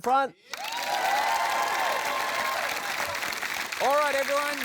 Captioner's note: cheering, applause